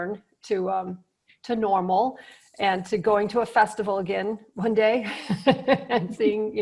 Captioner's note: laughs